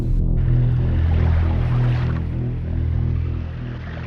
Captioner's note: didgeridoo droning; water lapping